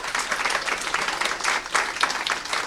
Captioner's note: applause